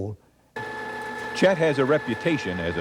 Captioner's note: drill hums